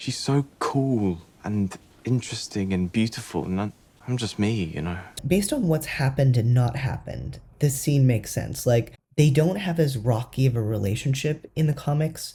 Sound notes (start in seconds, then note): none